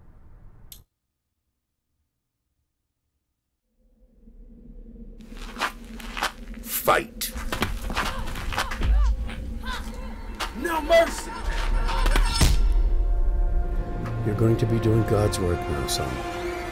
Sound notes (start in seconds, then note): 7.8 boys grunting